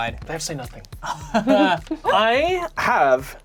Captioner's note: laughing